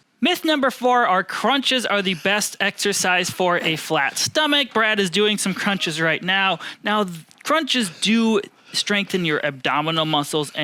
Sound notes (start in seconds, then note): 4.2 panting